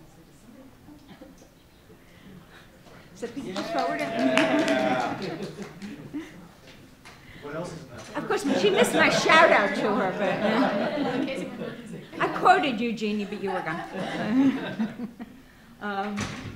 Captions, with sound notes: (applause) (man speaks off mic) Of course she missed my shout out to her. (laughing) (woman speaks off mic) I quoted you Jeanne but you were gone. (laughing)